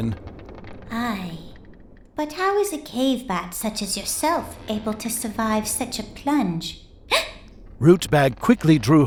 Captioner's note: gasp!